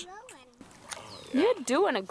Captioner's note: water stirs